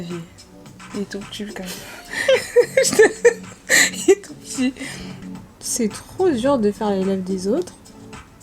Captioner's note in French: rires